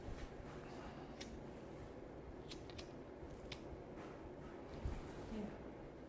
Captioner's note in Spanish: none